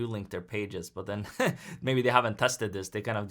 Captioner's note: chuckles